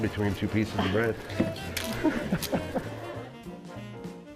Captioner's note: laughing